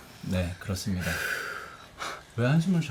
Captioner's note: sigh